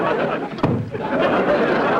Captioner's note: audience laughter; explosion